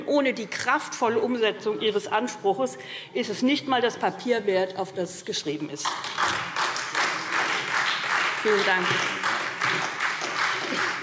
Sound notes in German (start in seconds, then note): 5.8 Beifall SPD, vereinzelt Freie Demokraten und DIE LINKE